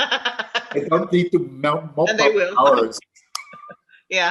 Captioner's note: laughter - both talking